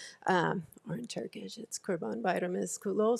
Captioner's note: speaks Turkish